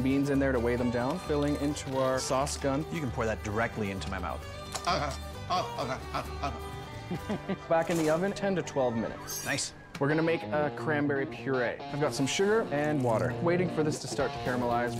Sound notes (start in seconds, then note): 5.5 grunting comically; 8.4 rooster crowing